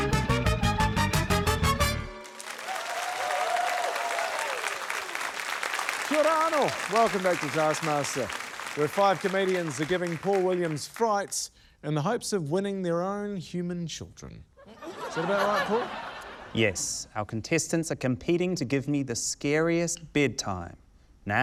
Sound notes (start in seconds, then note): 1.0 upbeat fanfare; 3.8 cheering, applause